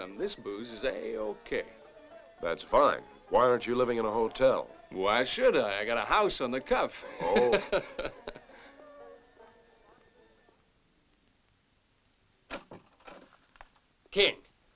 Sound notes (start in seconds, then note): 7.0 parker chuckling